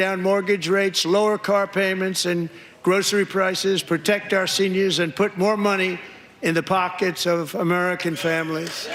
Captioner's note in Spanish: risas